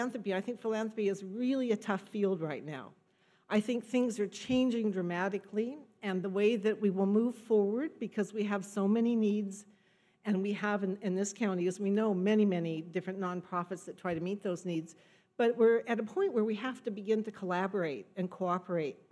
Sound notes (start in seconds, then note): none